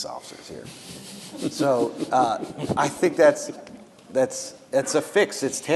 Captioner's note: laughing